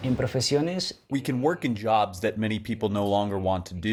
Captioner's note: through translator